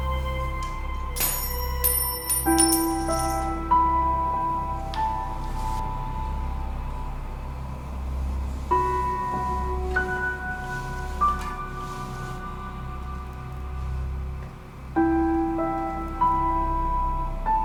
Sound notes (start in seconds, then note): 1.2 coin clattering